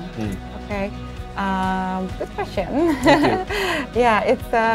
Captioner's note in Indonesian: keduanya tertawa